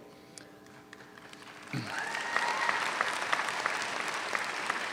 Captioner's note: audience applauds